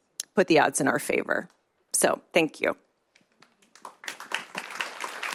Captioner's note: applause